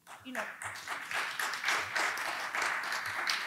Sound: applause

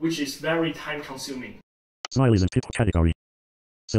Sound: voiceover speaking

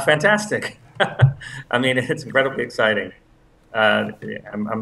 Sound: laugh

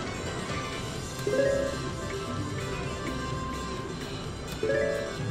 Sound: machine beeps

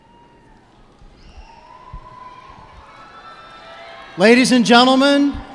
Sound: cheers and applause

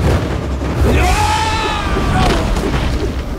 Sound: screaming

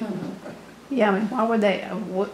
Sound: laughs

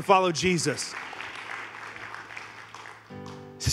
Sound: congregation applauding; gentle music

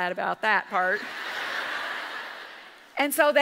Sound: audience laughs

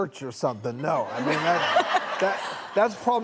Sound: audience laughs

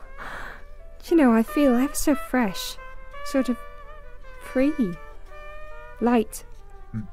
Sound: sighs

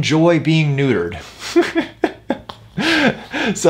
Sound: laughs

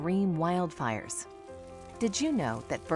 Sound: sizzling

